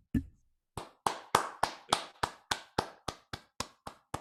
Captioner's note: applauds